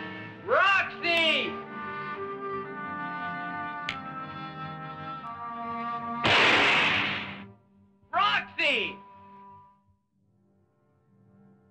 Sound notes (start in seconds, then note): 6.2 shoots gun